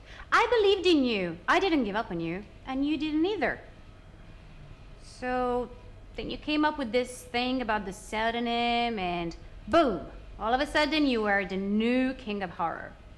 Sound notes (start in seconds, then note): none